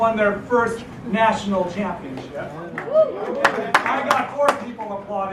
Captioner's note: applause